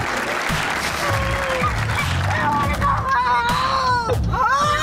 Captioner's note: audience cheers and claps; kids crying